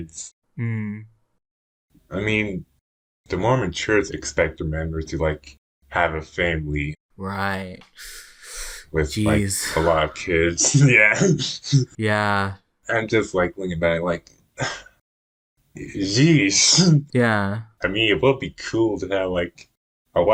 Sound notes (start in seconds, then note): 7.9 deep breath; 9.1 laughs; 15.4 sigh; 16.5 laughs